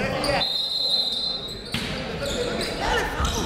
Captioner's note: whistle